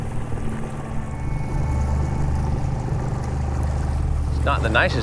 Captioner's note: engine chugging; water sloshing